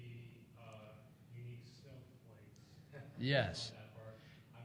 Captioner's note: laughs